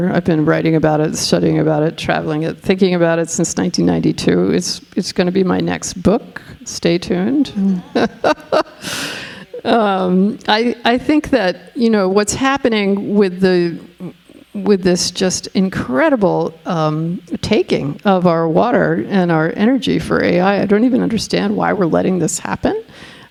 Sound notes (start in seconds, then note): 7.4 laughing